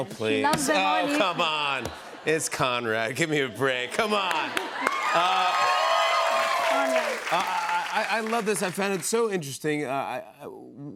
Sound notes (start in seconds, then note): 4.1 cheers and applause